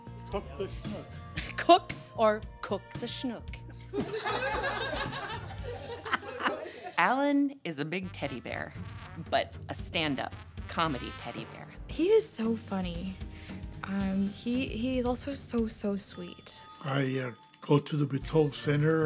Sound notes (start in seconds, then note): 3.9 laughter